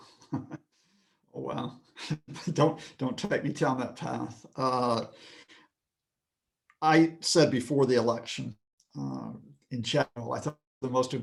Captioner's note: laughing